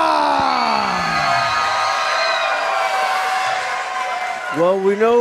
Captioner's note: crowd cheering